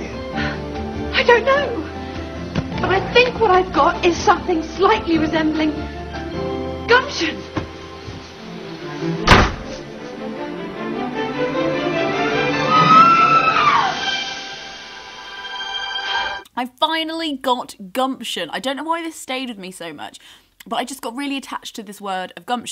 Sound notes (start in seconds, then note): 9.2 door slams; 12.3 squeals triumphantly